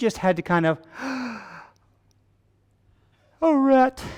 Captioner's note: gasps